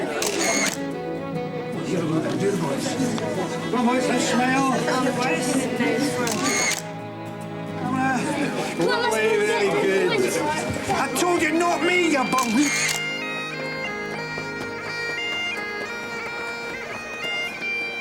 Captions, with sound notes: (camera clicking) - Come on, boys, now smile. (camera clicking) - Come on, let's go eat. - I told you, not me, you balloon. (bagpipes music)